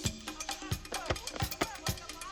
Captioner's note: click, click, people chattering in distance